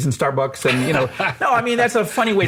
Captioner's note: laughs